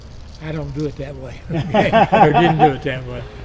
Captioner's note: laughing